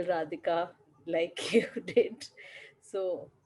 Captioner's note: laughter